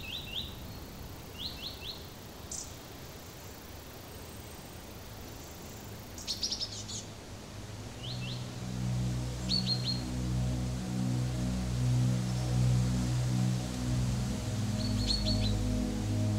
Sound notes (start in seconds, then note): 4.2 cinematic music; 4.2 wind noise